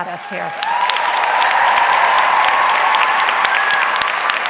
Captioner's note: audience clapping